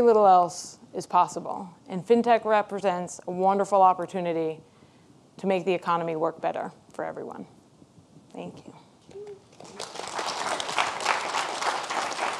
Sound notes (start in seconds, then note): 9.4 audience applauds